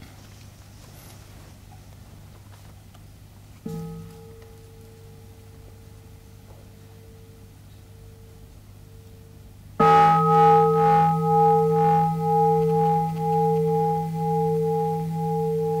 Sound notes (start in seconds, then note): 9.8 bell rings